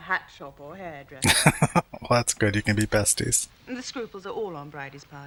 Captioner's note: laughing